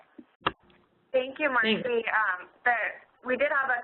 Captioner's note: voiceover